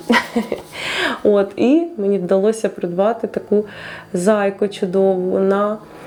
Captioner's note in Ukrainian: сміх